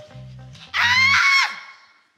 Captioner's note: screams